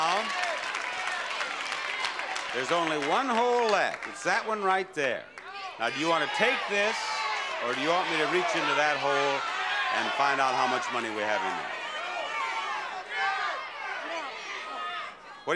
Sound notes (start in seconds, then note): 0.0 audience yelling; 6.8 audience yelling; 11.8 audience yelling